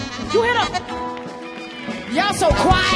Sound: audience applauds

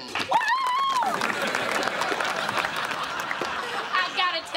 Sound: clapping

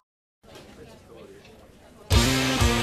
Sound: pupils chattering; sultry blues rock

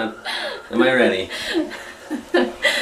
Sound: laughs

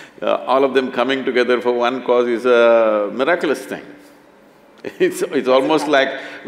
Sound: both laugh

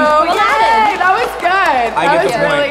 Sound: audience applauding

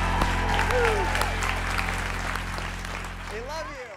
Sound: audience applauds

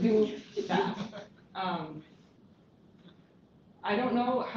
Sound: laughter

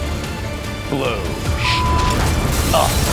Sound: beep

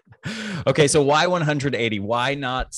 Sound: laughs

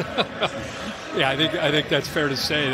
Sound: laughter

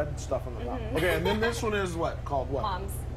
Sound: laughter

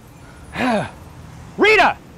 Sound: sighs

